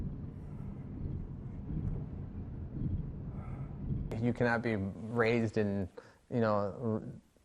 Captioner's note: road noise